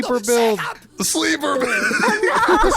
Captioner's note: laughing